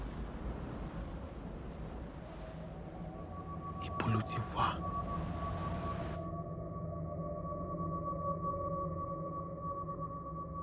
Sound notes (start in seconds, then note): 3.9 speaking Yoruba